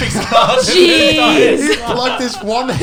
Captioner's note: laughs